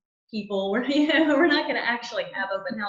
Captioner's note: laughing